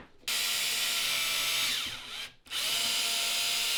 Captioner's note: drill whirring